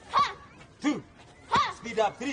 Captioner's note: child grunts